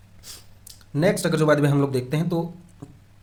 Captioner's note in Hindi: नाक से की जाने वाली आवाज़